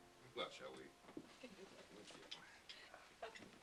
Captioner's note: laughs